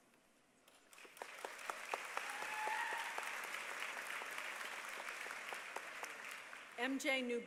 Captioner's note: applause